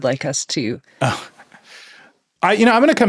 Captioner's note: laughs